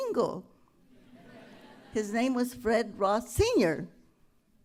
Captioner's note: laughter